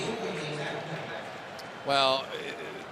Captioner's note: pa announcement